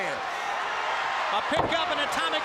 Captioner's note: crowd cheering